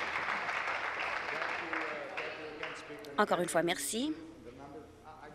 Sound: applause

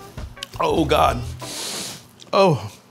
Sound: light upbeat music; inhales sharply

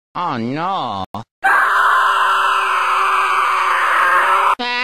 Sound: screaming

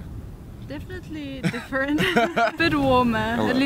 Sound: laughter

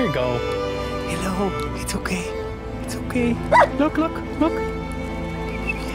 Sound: bark; whistle

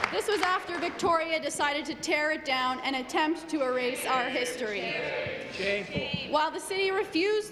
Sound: some Applause

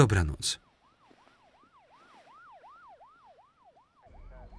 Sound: police siren

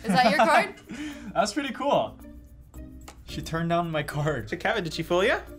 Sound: laughs

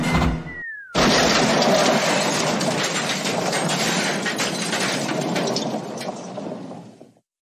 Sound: crash!

